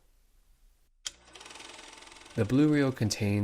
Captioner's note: projector click; whirring